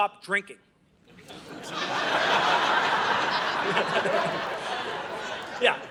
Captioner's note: audience laughing